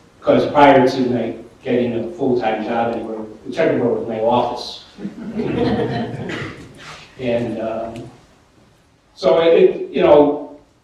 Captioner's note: laughter